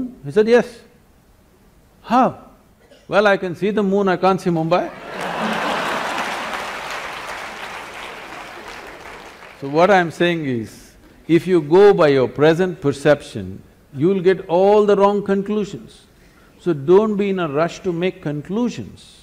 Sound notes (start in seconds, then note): 4.9 laughter and Applause